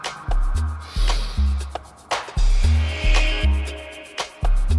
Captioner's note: inhales and exhales deeply